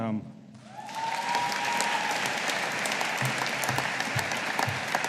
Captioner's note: audience applauding